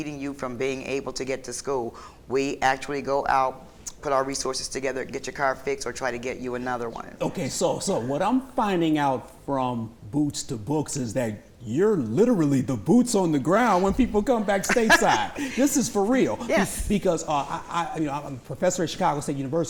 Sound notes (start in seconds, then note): 14.4 laughter